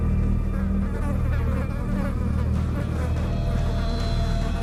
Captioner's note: flies buzzing louder